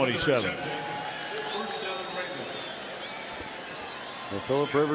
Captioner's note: pa announcement